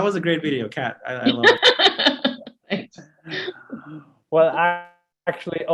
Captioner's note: laughs